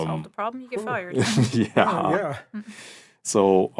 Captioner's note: laughing